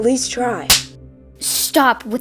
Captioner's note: smack